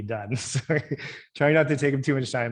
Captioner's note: laughing